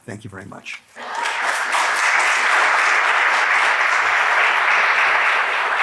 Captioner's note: applause